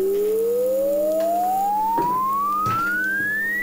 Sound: slowly rising high tone

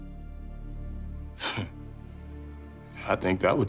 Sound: chuckles

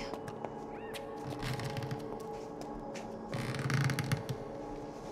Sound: creaking sound

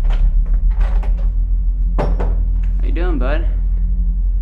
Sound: door clicking closed

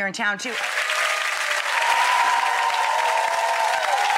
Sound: applause

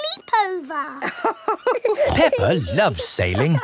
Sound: both laughing

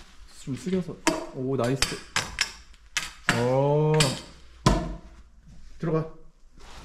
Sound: exclamation

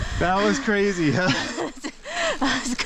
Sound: laughing

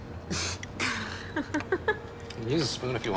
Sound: both laughing

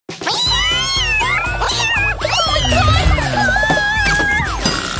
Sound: meows

